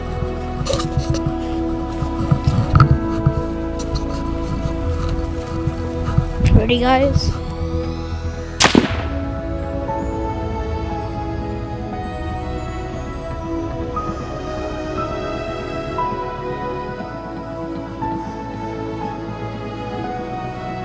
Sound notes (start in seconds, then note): 8.6 start pistol firing